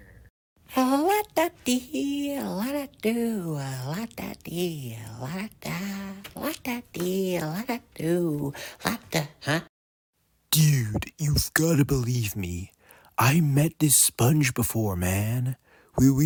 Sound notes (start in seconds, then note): none